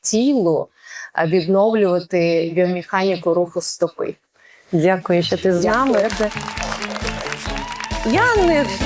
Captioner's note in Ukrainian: оплески